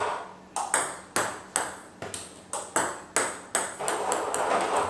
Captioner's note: ball ping pong hitting continues